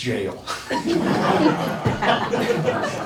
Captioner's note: laughing